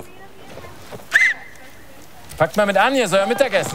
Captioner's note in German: Pfiff